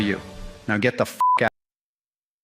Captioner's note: beep